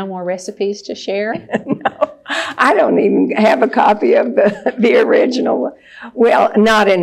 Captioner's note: laughs